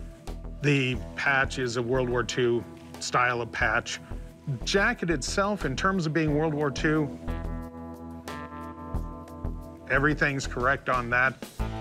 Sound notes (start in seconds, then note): none